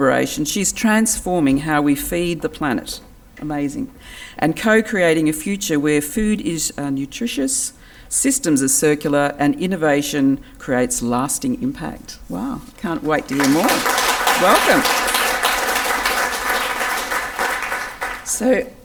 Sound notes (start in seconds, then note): 15.3 audience applause can be heard